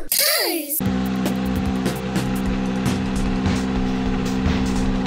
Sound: car running

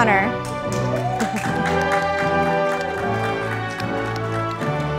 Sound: audience applauding

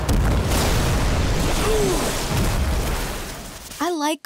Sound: grunting

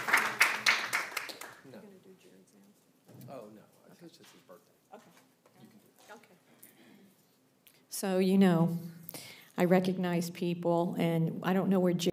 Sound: applause

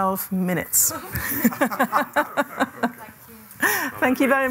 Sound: laughter

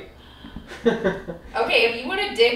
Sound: laughter

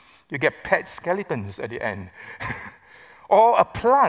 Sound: chuckles

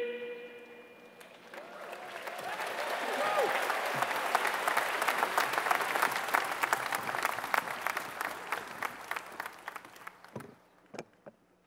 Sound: applause

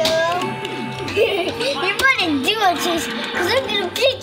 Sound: Cole-man laughing; video games sounds continue

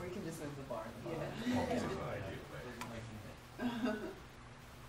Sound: audience murmurs

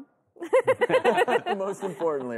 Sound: laughing

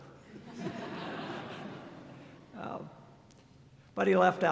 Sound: laughter

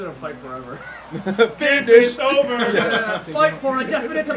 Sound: laugh

